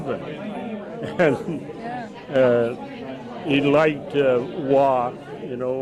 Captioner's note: laughs